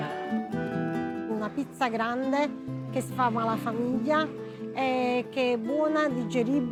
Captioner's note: in Italian